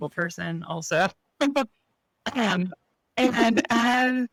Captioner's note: laughs